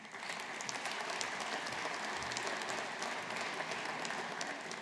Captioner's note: audience applauding